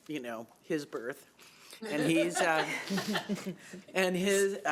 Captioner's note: chuckling